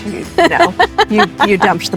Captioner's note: laughing